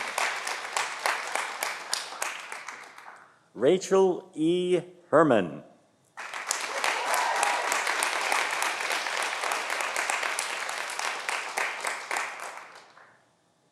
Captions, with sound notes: Rachel E. Herman (audience applauding)